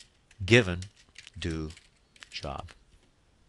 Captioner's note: typing